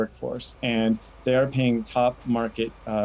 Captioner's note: machinery humming